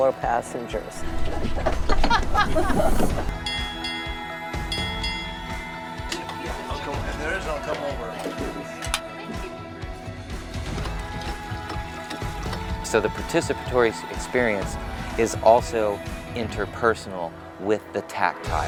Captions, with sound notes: passengers. [Sound of bell being rung] [People chatting over dinner] So the participatory experience is also interpersonal with the tactile.